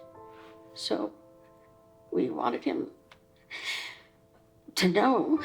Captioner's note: inhales deeply